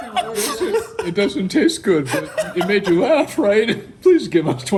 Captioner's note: laughs